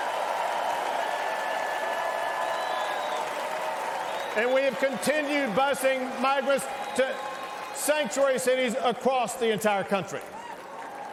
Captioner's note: cheers and applause